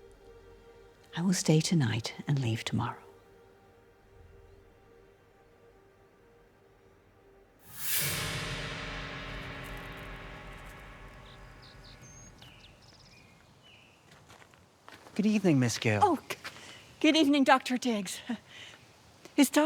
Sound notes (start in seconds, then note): 7.6 dramatic music; 11.2 birds chirping; 14.2 gravel crunching; 18.8 laughs